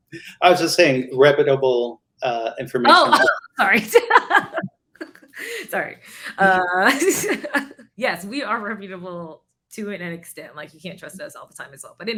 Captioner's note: laughing